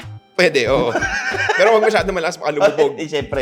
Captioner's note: laughs